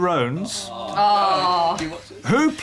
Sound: oohing

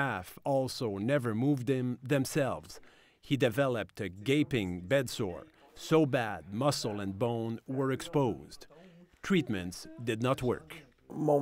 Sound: speaking French

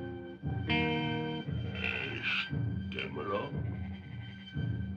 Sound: caveman speaking

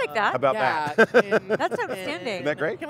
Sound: laugh

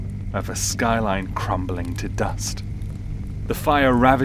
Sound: fire crackling

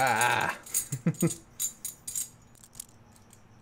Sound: laughs

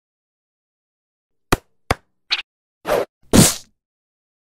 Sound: playful sound effects

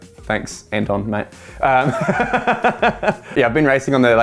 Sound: laughter

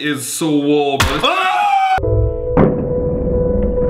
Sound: screaming; crashing; dramatic music

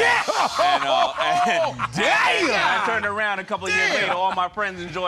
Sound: laughter

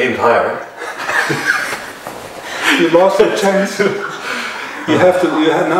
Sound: laughter

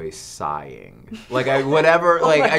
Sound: laughter

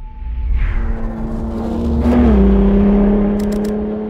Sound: car engine

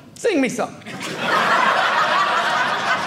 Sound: audience laughing

